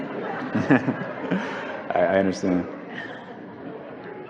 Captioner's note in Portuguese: A plateia ri; Convidado ri